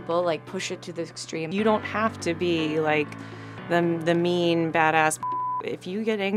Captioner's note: beep